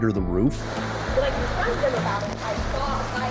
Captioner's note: heavy wind and rain